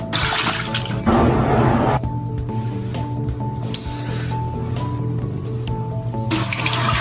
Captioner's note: sink noises; shaving noise; sink noises